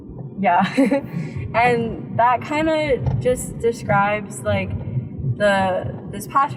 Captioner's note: laughs